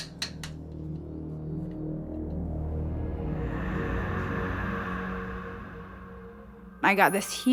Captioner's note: dramatic music; heavy breathing